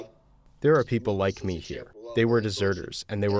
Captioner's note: through translator